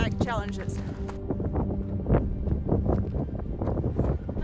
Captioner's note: wind blowing